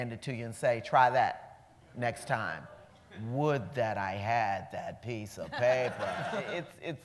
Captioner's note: laughs